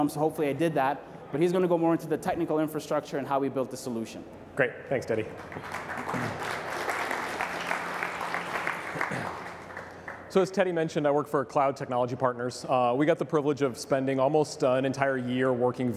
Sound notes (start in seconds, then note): 5.3 applause